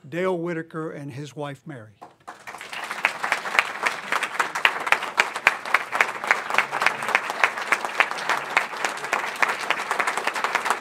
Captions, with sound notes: Dale Whittaker and his wife Mary. (applause)